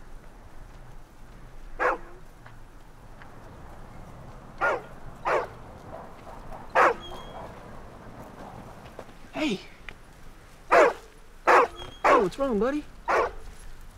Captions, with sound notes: (dog barks) "Hey." (dog batks) (Barking continues) :Whats wrong buddy?"